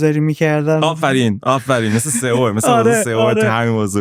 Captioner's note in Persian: خنده